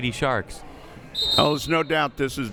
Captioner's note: whistle